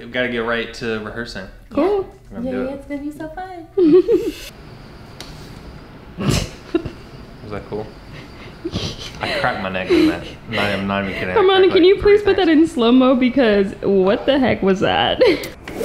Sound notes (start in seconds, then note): 3.7 chuckles; 8.6 laughs